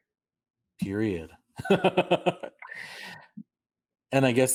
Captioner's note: light laughter